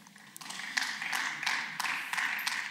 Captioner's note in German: Beifall